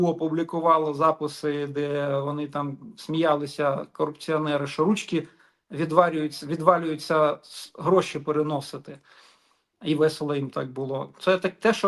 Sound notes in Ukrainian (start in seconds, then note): 9.0 сопіння